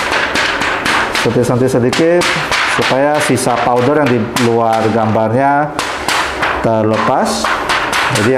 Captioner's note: PET film sound; PET film sound